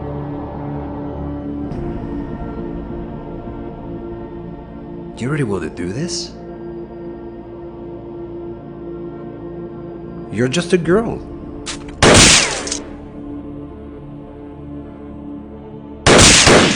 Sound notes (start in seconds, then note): 11.7 gun firing